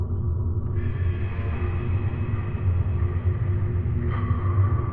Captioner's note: none